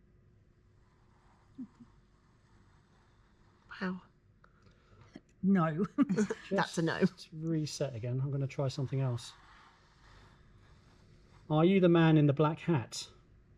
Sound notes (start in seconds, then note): 5.8 chuckles